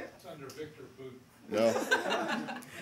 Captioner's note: laughter